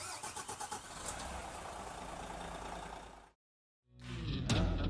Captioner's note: car engine starts